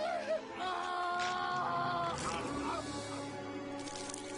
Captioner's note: pained screaming; flesh tearing; blood pattering